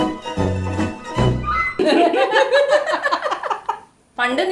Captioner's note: revelatory laughter